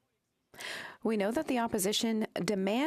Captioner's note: speaking French